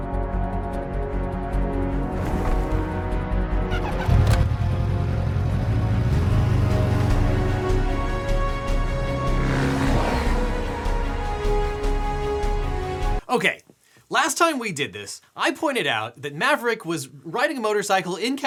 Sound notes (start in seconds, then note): 0.2 dramatic music begins; 3.7 motorcycle engine revving; 8.0 dramatic music continues